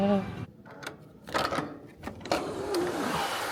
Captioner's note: lock clicks